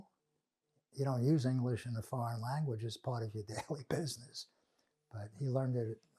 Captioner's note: laughing